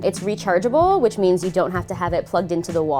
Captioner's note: none